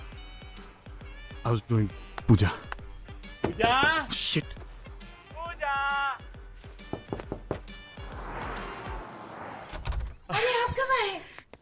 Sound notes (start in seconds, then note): 3.4 Knocks on door; 6.8 Knocks on door; 9.6 Door opens